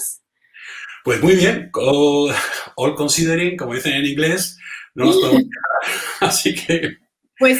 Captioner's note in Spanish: se ríe